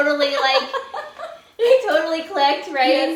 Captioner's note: laughing